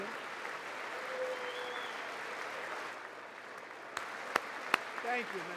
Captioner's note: applause